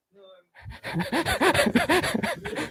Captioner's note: laughs